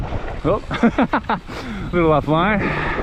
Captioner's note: laughs